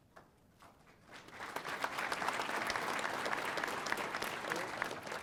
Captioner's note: audience applauding